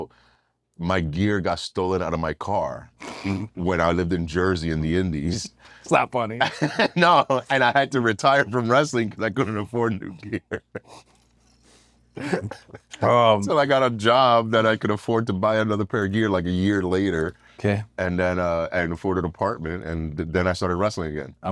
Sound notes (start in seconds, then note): 6.4 laugh; 9.9 laugh